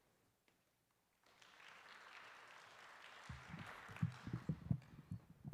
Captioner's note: applause